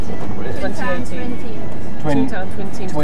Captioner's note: none